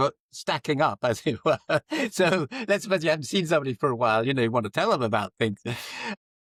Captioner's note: laughs